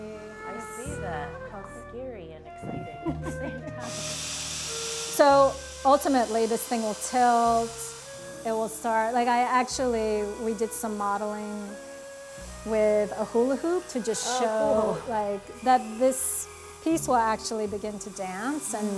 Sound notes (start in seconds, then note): 2.7 both laughing; 4.5 machine whirring